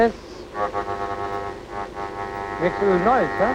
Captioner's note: machine grinding